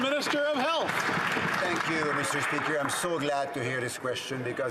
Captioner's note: some Applause